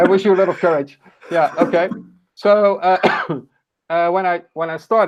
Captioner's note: laughs